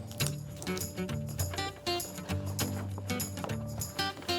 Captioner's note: paper rustling; upbeat country music continues